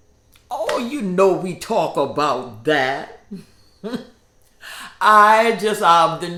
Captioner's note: chuckles